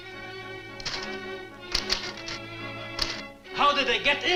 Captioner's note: typewriter clacks